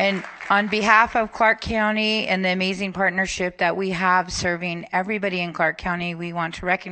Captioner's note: applause